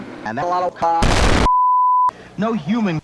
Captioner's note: loud explosion